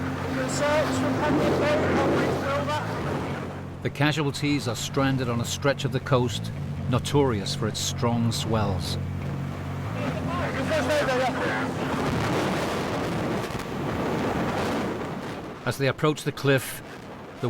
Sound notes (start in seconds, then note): 8.9 boat droning; 11.2 wind whooshing; 12.0 boat droning; 13.7 waves crashing